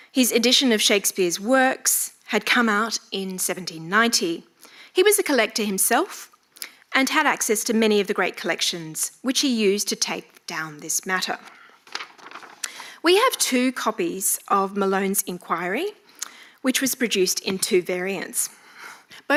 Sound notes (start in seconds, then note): none